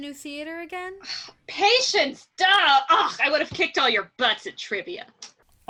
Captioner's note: scoff